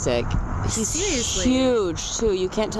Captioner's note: hoots